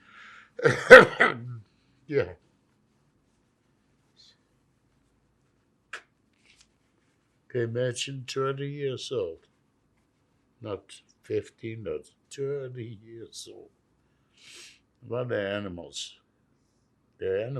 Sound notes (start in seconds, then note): 0.6 clears throat; 6.3 wiping nose